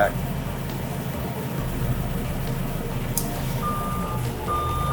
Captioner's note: machine humming; lift alarm beeps